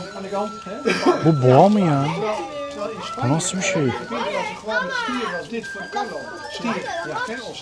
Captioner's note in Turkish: kahkaha